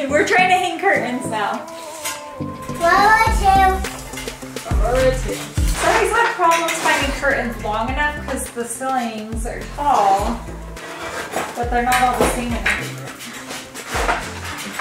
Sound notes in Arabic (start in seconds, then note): 2.8 طفل صغير يغمغم في الخلفية